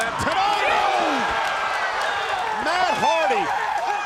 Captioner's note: spectators cheering